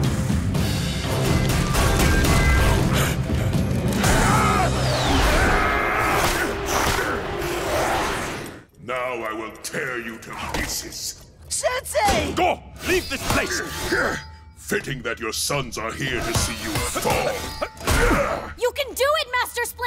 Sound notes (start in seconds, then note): 5.1 grunting